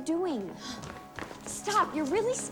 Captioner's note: Eliza gasps softly